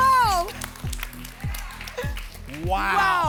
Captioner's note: applause and cheering cont